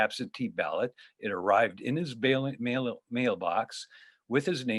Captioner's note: stutters